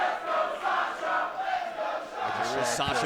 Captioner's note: fans chanting